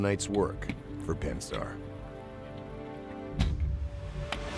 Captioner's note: voiceover